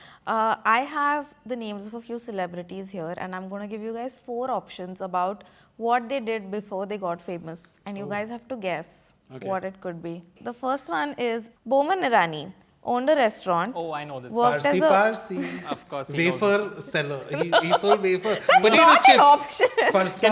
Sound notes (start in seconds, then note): 16.4 laughs